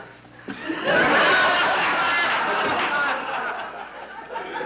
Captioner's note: audience laughing